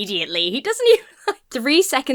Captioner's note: laughs